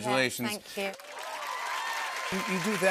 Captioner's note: cheers and applause